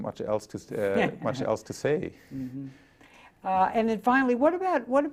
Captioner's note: chuckles